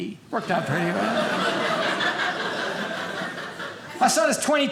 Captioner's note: audience laughing